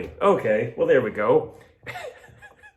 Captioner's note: laughs